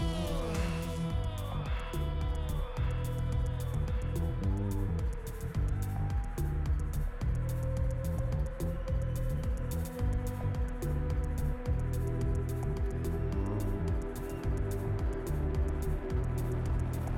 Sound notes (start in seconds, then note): 3.1 echoing